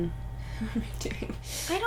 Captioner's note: laughing